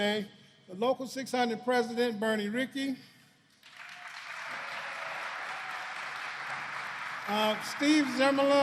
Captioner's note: applause